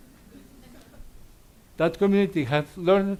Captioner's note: audience laughs